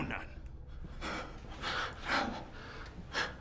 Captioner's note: rapid breathing